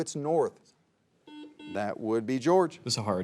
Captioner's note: buzzer beeps